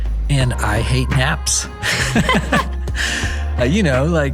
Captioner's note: both laughing